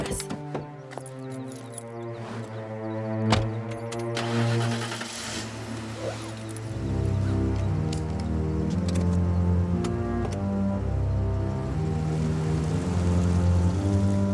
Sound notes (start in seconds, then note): 4.0 engine starting; 8.0 ominous music